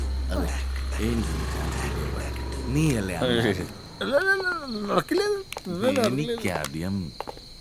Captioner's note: murmuring